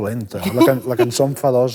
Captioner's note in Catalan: ríe